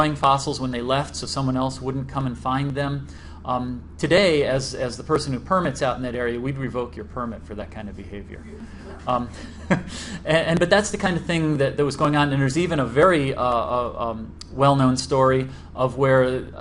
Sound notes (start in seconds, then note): 8.3 crowd reacts; 8.4 laughs